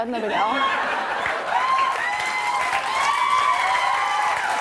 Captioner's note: cheers and applause